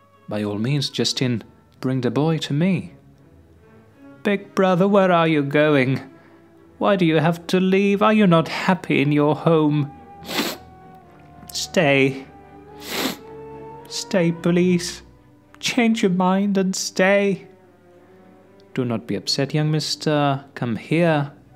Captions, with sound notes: By all means, Justine, bring the boy to me. Big brother! Where are you going? Why do you have to leave? Are you not happy in your home? (SOBS) Stay. (SOBS) Stay, please. Change your mind and stay. Do not be upset, young mister. Come here.